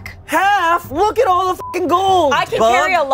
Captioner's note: beep